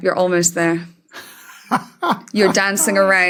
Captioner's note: cackles faintly